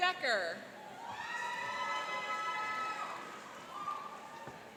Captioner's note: cheering and applauding